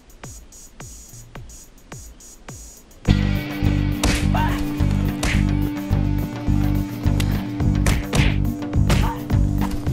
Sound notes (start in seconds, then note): 3.9 foot smacking; 4.8 screaming; 5.6 thudding